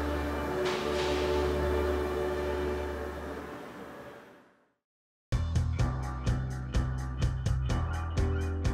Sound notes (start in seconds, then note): 2.9 bright music; 2.9 machines spraying